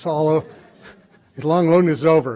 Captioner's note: laughter